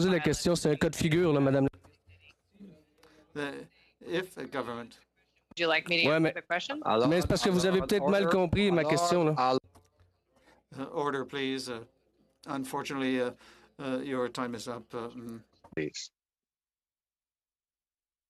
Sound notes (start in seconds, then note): 4.7 speaking French